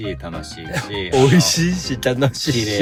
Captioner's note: laughs